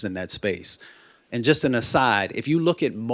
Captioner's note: none